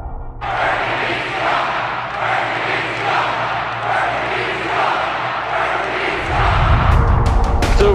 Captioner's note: Crowd chants, "Bernie beats Trump! Bernie beats Trump!"